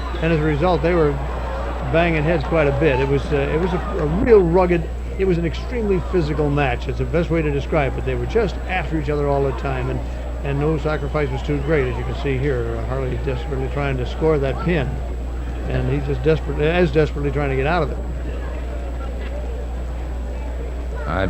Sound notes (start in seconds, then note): 9.6 people chattering distantly; 18.1 people chattering distantly